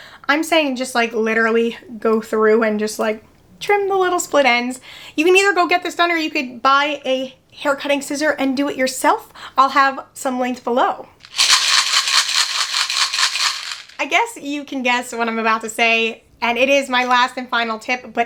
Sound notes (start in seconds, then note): 11.2 vitamins rattling